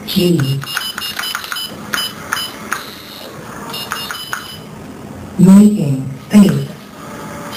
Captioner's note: typing sound